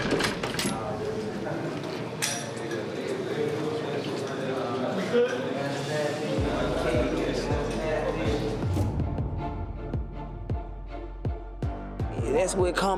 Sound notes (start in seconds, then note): 0.6 men chattering indistinctly; 8.8 tense melody plays